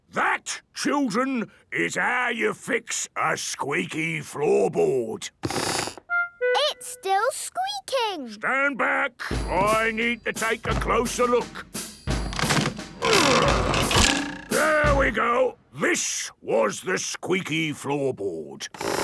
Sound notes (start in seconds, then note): 5.5 squeaks; 12.2 wood creaking; 12.3 boings